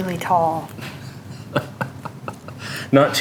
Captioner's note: chuckling